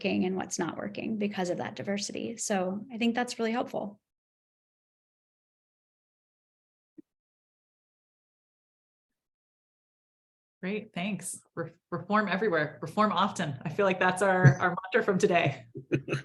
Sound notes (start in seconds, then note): 15.7 laughs